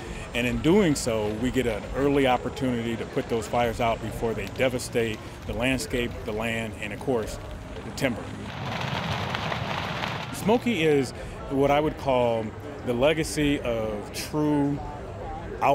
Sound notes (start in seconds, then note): 8.8 crackling